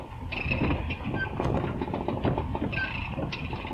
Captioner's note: winch squeaking